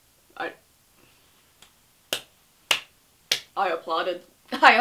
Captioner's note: claps hands